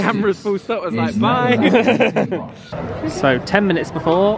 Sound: laughs

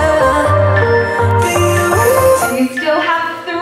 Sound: alarm beeping

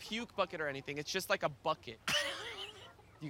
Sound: laughing

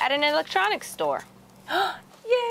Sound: gasps

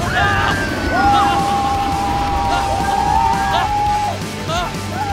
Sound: riders screaming

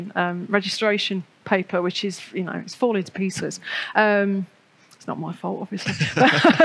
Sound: laughs

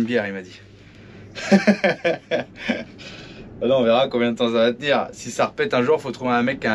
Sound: laughs

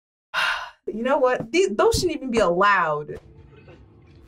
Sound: sighs

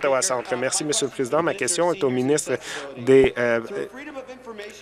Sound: some Applause

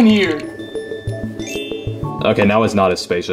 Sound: chimes ringing

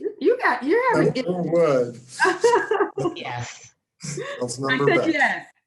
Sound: laughing

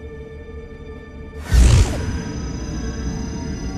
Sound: Apple pulsating

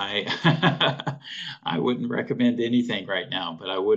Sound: laughing

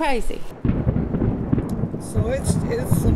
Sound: thunder booms

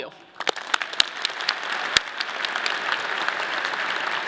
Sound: audience clapping

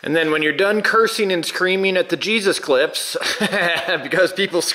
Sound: laughs

